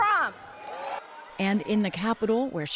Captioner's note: cheering